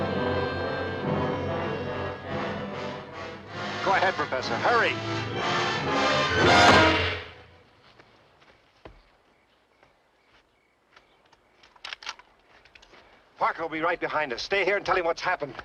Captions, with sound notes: Go ahead, Professor, hurry! (dramatic music) (gun cocking) Parker will be right behind us. Stay here and tell him what's happened.